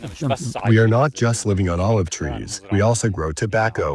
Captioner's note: through translator